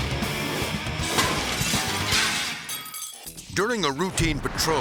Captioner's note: energetic music; glass shattering